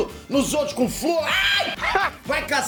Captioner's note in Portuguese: gritando